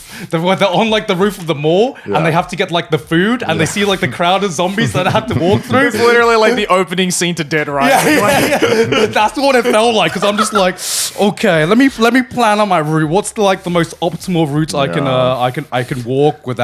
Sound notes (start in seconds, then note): 7.7 laughs; 10.8 sighs